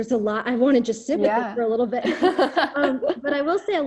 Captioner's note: laughter